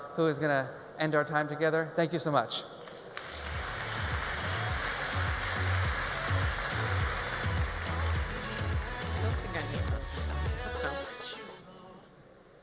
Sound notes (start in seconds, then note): 2.8 audience applauds; 3.3 mellow pop music